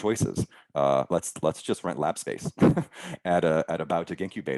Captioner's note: chuckling